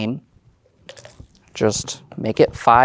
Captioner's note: dice clattering in cup